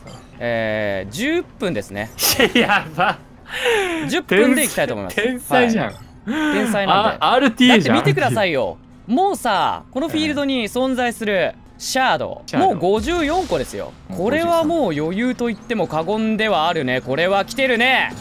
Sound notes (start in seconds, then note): 2.2 laughs